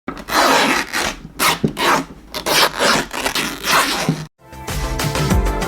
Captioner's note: fabric Ripping; intro Music